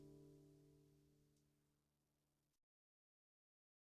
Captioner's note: silêncio